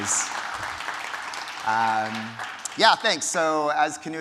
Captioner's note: audience applauding